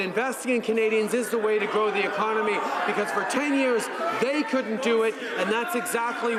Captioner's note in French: voix de l'interprte